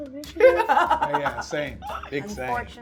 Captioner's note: laughing